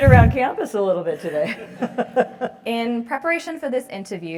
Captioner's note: laugh